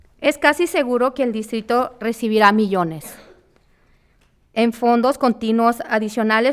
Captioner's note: speaking in foreign language